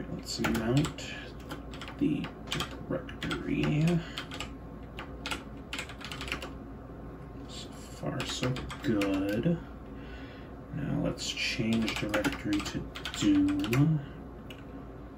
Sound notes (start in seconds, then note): 0.0 keyboard Clicking; 2.4 keyboard Clicking; 5.6 keyboard Clicking; 12.9 keyboard Clicking